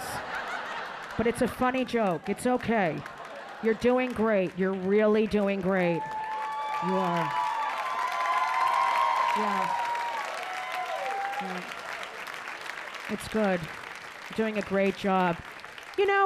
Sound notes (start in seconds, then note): 0.0 audience laughing; 5.6 audience cheering